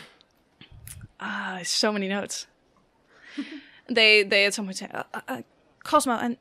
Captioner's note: laughs